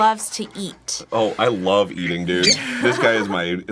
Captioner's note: gumby squeeks